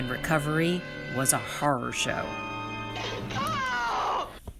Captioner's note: scream